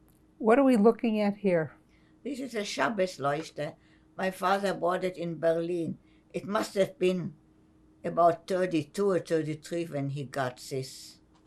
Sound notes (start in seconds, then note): 3.5 german